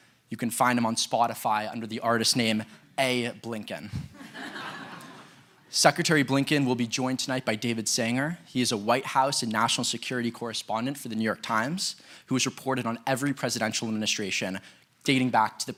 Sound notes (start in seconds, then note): 4.0 laughter